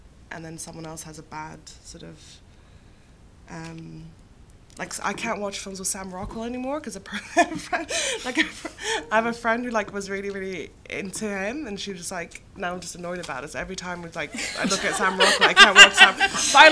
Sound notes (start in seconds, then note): 7.3 laughs; 14.3 laughter